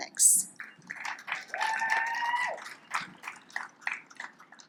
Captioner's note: audience applauds